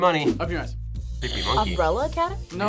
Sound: buzzer rings

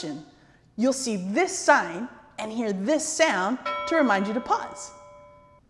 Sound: ding

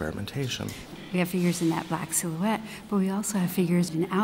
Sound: voiceover

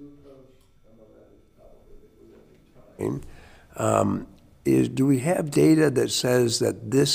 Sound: speaks distantly

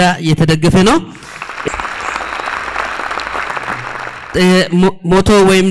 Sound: applause

